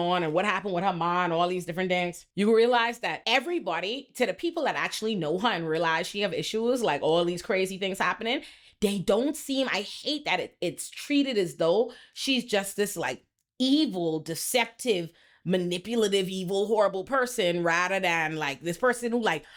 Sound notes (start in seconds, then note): none